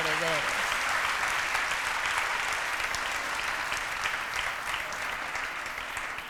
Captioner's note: applause